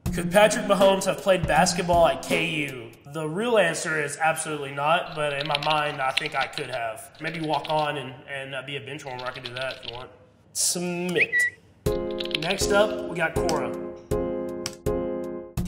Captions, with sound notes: Could Patrick Mahomes have played basketball at KU? The real answer is absolutely not, but in my mind I think I could have. Maybe walk on and be a benchwarmer, I could do that if you want, submit. [bird chirping] Next up, we got Quora. [light music]